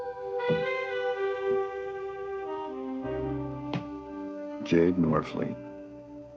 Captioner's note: footsteps tapping